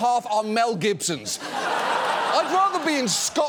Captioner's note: studio audience laughs